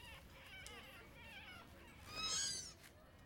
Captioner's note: faint squeal of fear